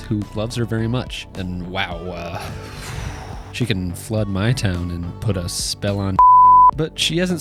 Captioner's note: beep